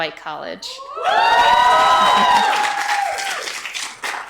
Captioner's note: audience cheers